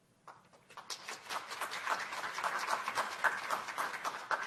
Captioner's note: applause